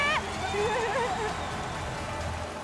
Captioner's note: crowd cheering